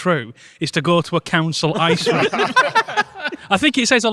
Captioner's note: group laughter